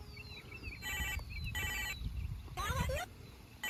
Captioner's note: phone rings